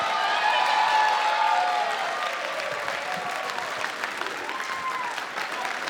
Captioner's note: cheering and applause